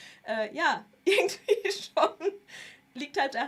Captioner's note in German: gelächter